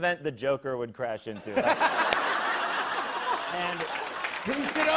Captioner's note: laughter